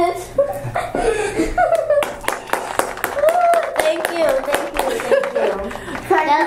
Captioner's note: applause